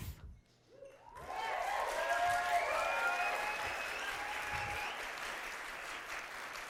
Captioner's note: audience applauding